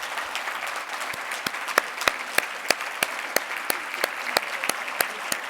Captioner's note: everyone clapping